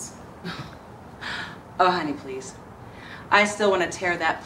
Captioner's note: laughs